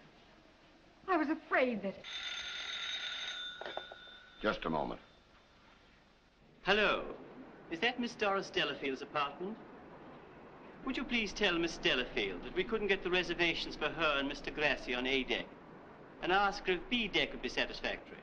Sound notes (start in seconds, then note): 2.0 rings